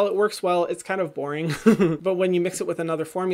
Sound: laughs

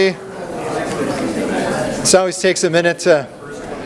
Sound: crowd talking

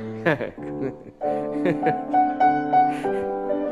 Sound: laughing

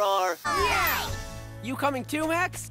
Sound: cheering

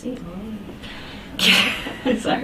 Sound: chuckles

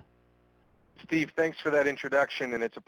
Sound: voiceover

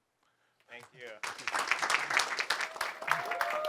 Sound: applause

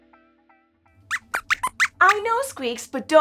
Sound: squeaks squeaks

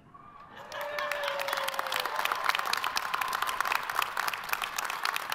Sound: audience applauds

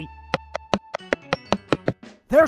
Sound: walking sound being noice

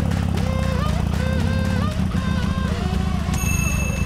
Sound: vroom

